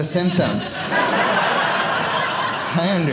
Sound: audience laughing

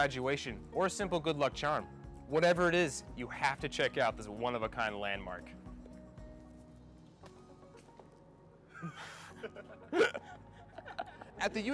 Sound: throws shoes, misses and laughs

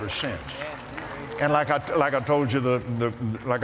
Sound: applause

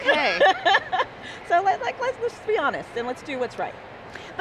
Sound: laughs

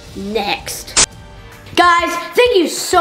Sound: static discharging

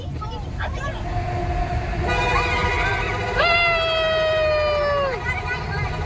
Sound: car beeping in tunnel

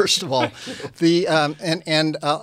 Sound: laughs

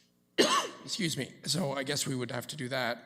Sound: coughs

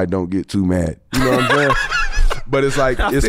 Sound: laughs

